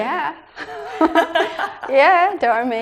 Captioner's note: laughing